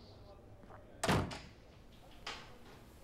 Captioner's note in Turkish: Kapı kapanma sesi